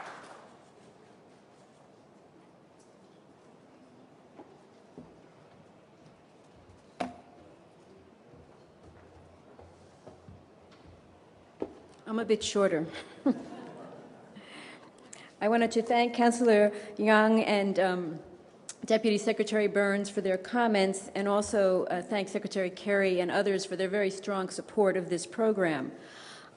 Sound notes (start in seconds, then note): 12.9 laughter